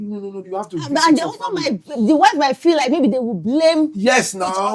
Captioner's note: speaking In Foreign Language